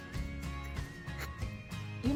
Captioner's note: snicker